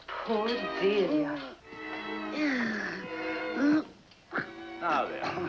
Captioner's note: moaning